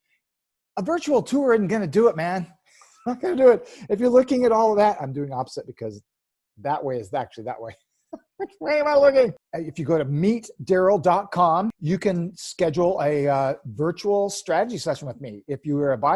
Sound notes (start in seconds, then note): 8.2 laughing